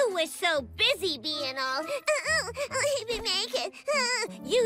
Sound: whimpering

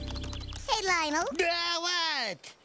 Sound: yells

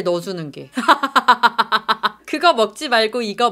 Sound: laughs at the comments

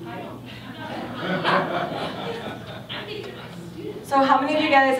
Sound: background Discussion

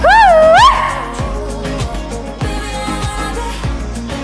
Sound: howls

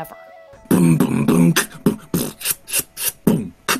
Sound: beat boxing

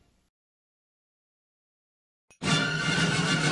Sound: silence; rousing fanfare playing

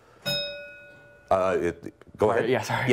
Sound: bell rings

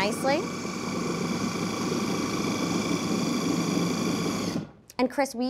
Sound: processor whirring

